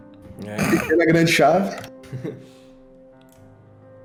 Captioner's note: laugh